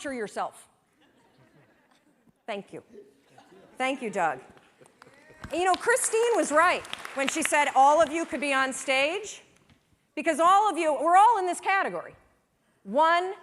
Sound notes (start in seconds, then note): 4.9 applause